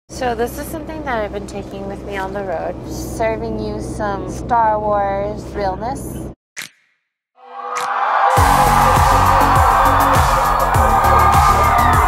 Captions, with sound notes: - So this is something that I've been taking with me on the road. Serving you some Star Wars realness. [crowd cheering]